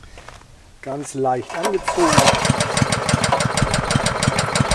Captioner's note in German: Motor startet